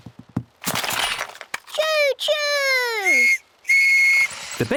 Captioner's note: blasts on whistle